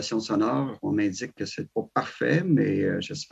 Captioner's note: speaking French